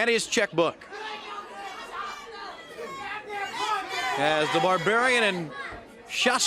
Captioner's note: crowd chatter